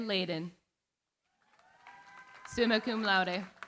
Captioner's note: cheering, applause